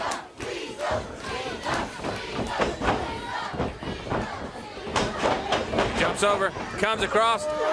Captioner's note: crowd cheering